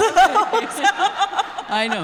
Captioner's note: laughing